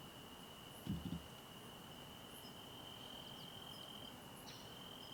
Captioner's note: crickets chirping